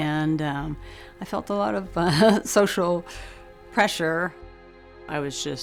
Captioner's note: chuckles